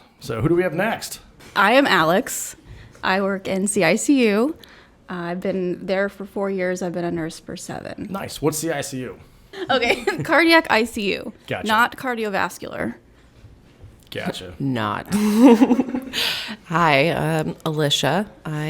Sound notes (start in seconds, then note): 15.2 all chuckle